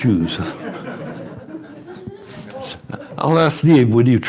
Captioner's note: laughter